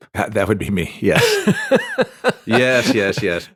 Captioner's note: laughs